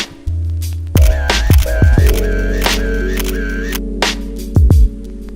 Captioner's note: camera snapping